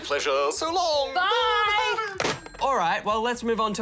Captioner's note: laughs